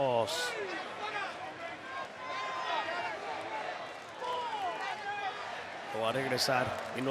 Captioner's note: applause